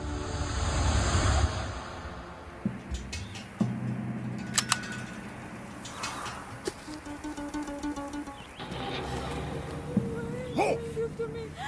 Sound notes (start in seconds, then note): 3.3 tense music; 4.3 gun clicks